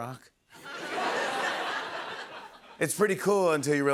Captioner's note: laughter